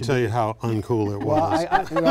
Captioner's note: laughing